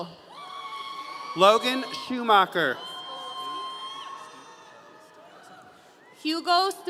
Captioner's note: audience cheering